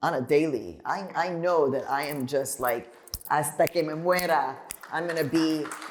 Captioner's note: applause